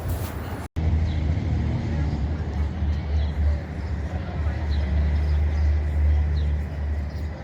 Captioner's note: traffic roaring; crowd chattering